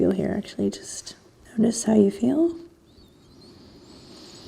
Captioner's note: breathing deeply